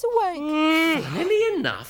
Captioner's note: Groove yawns